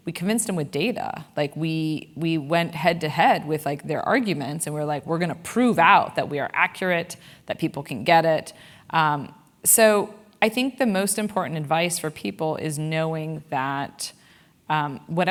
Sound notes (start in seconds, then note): none